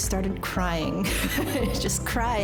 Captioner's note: laughter